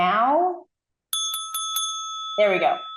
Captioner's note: bell dings